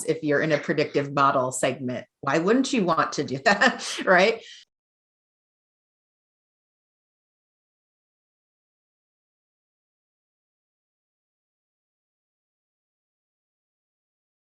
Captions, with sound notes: If you're in a predictive model segment, why wouldn't you want to do that? Right. (giggles)